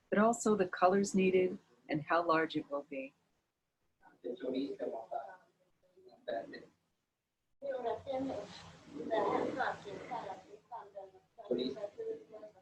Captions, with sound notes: but also the colors needed and how large it will be. (speaking in foreign language)